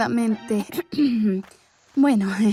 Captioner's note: clears her throat